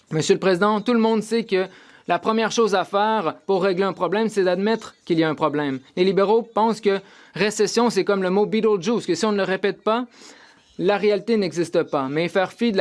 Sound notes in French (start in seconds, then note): 5.6 voix de l'interprète